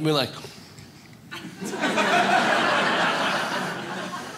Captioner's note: audience laughs